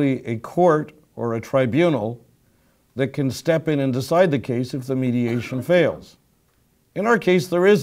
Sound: cough

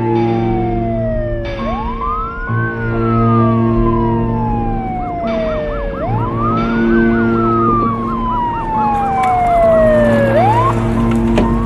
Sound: siren blaring

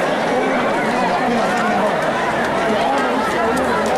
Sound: speaks in a foreign language; crowd noises

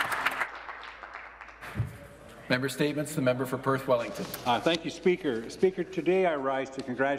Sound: some Applause

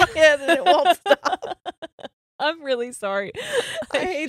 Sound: both laughing

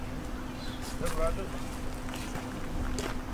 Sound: men chatting

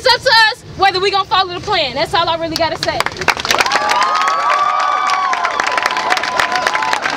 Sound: cheering

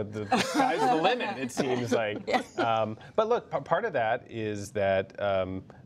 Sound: laughter

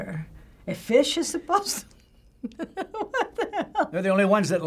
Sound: chuckles

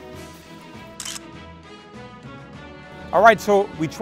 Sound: camera clicks

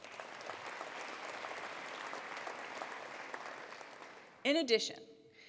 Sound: attendees applauding

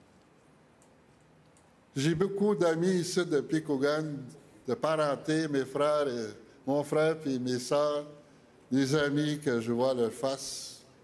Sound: speaking French

